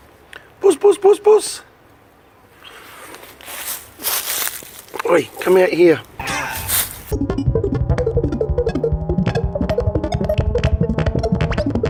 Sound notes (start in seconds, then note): 7.1 rapid modulated electronic bleeping